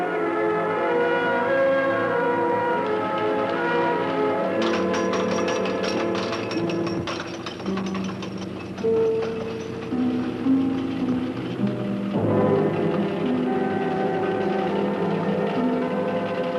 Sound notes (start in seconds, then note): 1.2 tram car rattles; 2.6 suspenseful music